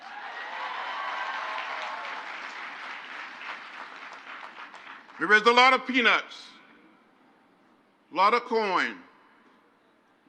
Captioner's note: crowd applauds